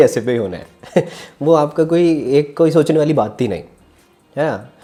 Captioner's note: laughs